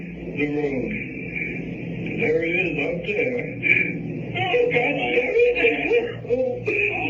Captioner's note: crying